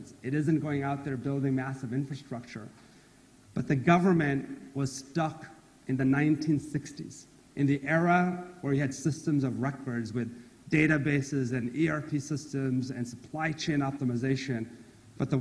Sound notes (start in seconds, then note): none